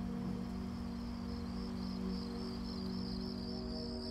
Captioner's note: crickets chirping; tense music